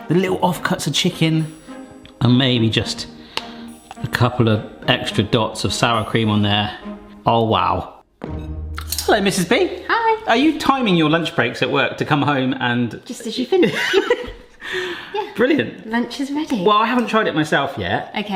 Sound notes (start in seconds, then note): 14.4 laughs